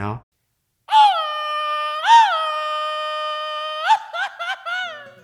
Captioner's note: undulating shout